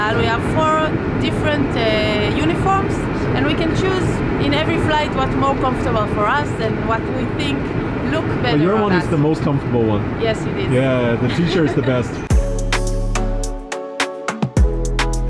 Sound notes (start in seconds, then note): 11.2 laughs; 11.5 upbeat music